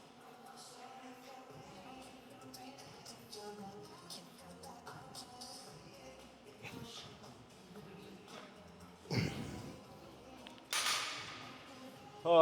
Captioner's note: grunting